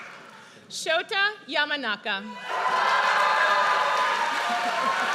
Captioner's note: audience cheers